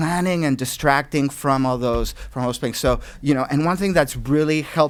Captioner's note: voice muffled